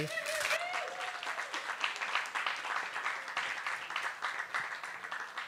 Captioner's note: applause